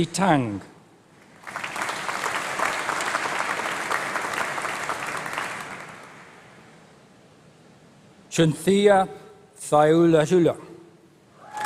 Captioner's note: applause